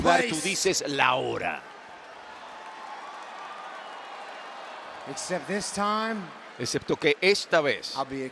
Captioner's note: applause